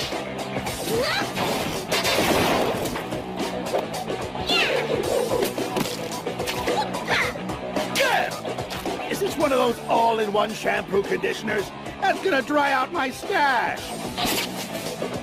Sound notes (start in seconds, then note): 0.6 grunts